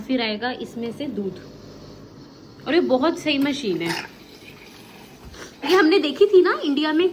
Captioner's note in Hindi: नाक से की जाने वाली आवाज़